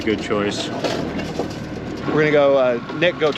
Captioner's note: boat engine idling